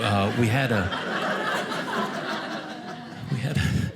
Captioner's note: audience laughing